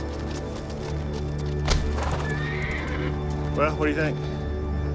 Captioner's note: neighing